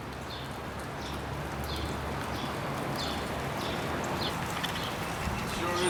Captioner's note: birds chirping